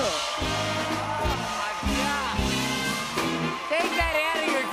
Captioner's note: cheers and applause